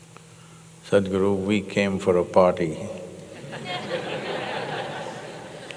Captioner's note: laughter